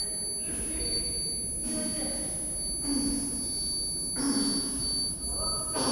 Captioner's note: Mark grunting